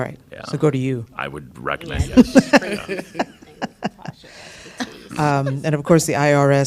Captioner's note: laughter